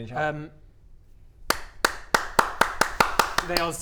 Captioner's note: genuine applause